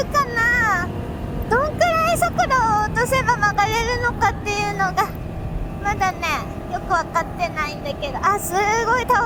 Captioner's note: enjoy the engine sound for the first half